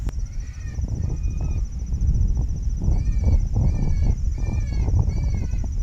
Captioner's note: high pitched squealing